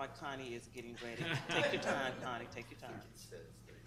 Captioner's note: people laughing